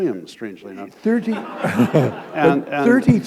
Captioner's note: laughter